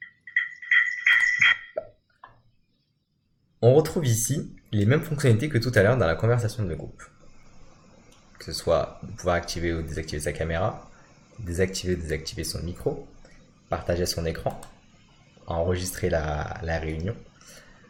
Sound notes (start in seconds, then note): 2.4 silence